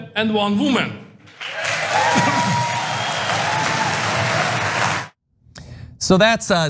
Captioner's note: applause